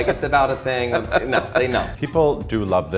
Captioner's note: laughs